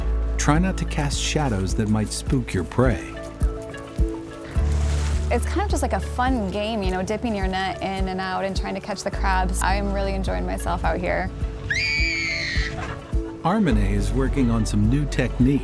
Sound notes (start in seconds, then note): 4.2 water splashes; 11.6 little girl screams